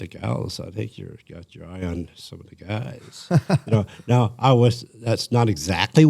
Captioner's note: laughter